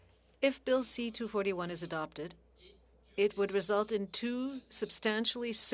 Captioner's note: speaking French